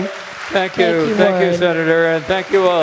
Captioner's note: audience applauding